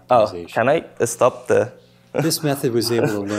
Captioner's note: laughter